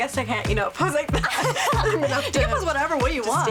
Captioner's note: laughing